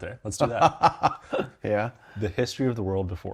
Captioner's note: laughs